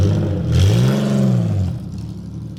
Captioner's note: car engine revving